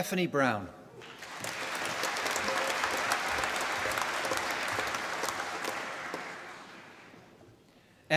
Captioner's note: applause